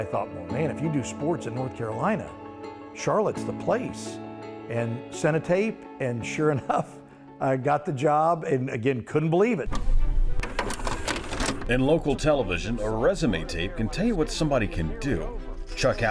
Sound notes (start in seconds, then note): 9.7 VCR whirs; 9.7 bright music